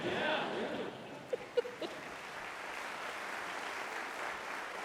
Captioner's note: laughter